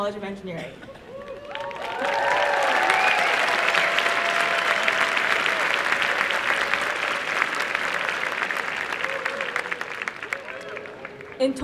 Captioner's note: applause and cheering